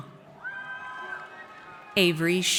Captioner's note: audience cheers